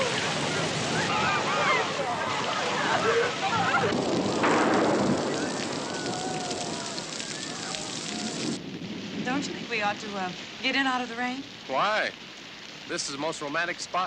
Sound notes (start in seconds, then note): 0.0 boys cheering; 5.1 thunder